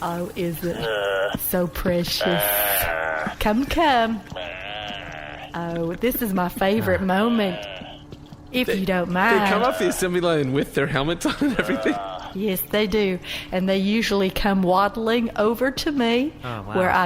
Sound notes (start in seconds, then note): 2.2 incoherent grunts; 9.1 laughing